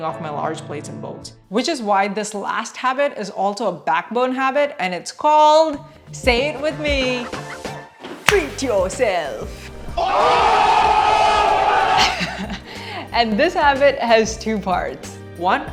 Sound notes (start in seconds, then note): 10.0 crowd